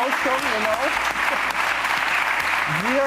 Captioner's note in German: Applaus